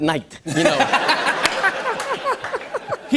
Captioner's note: laughter